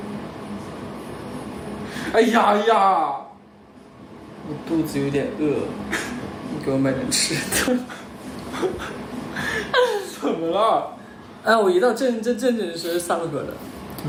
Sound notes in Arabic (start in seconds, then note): 8.4 يضحك